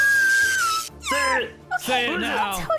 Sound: blows on a dog whistle too hard

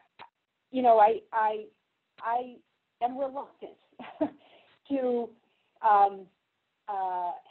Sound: laugh

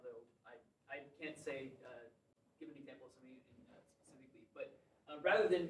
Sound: man speaks off mic

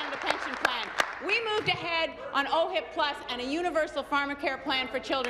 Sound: applause

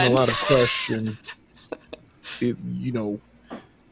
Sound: chuckles

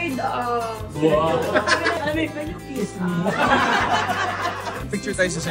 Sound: everyone laughs

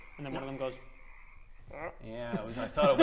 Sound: ribbit

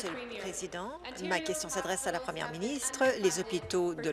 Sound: applause

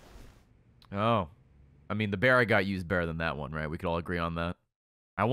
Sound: none

